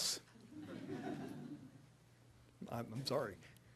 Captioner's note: audience laughing